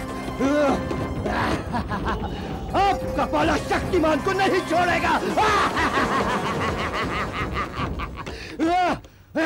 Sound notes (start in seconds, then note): 5.2 laughs